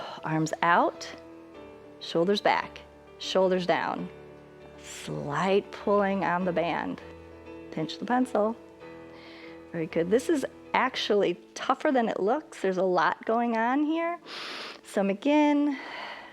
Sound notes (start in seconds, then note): 14.2 exhales; 14.3 inhales